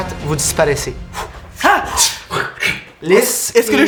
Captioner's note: whoosh